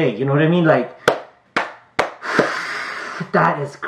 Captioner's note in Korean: 물개박수 + 소름